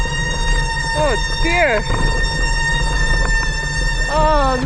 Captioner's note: brakes Squeaking